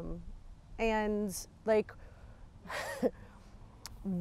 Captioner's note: chuckles